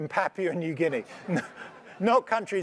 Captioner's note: laugh